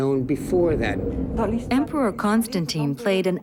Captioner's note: speaking in foreign language